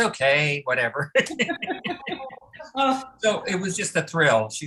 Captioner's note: laughter